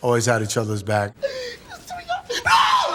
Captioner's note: crying